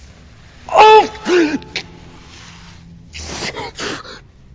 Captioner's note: yelling, groaning